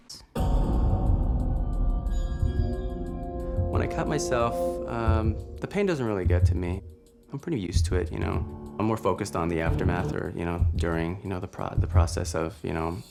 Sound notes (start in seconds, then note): 0.3 tense Music; 9.6 budum